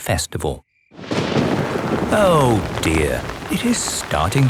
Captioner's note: thunder rumbling